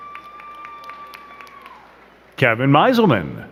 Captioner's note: crowd cheering and clapping